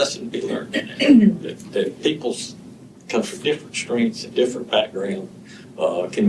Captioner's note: clears throat